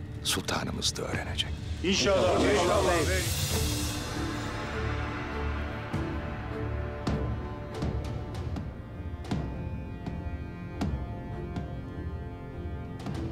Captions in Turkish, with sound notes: ...sultanımız da öğrenecek. (Hepsi bir ağızdan) İnşallah beyim. (Kös sesleri)